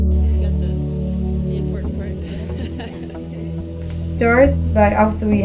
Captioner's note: laughing